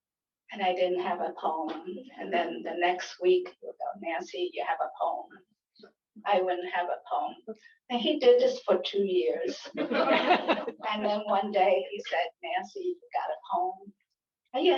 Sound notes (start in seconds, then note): 9.6 laughter